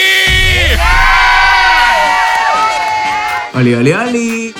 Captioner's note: screaming